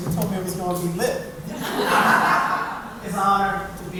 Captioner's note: laughing